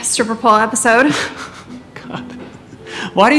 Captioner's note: Interviewer laughs